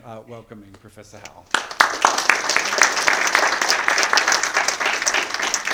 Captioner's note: attendees applauding